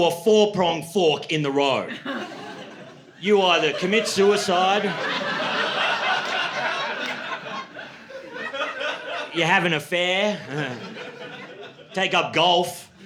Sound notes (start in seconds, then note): 6.0 laughter